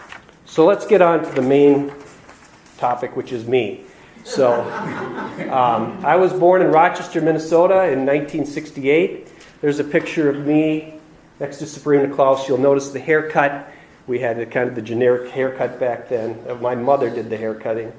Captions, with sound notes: So, let's get on to the main topic which is me. (audience laughs) I was born in Rochester, Minnesota in 1968. There's a picture of me next to Sabrina and Klaus. You'll notice the haircut we had, the kind of generic haircut back then. My mother did the hair cutting.